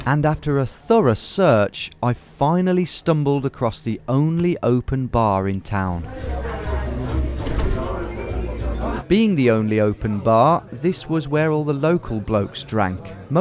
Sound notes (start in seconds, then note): 5.1 bar bustling